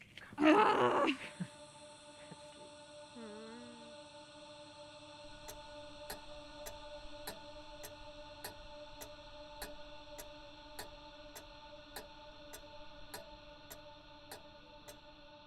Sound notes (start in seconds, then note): 2.0 tense music; 6.6 clock ticking